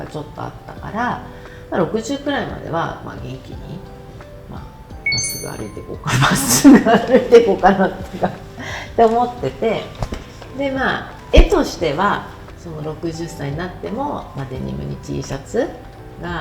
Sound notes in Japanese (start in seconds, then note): 7.6 笑い